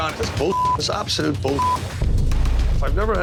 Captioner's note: beep